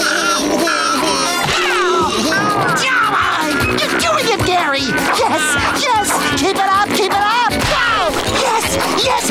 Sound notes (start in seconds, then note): 1.2 screaming